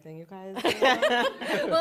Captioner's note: laughter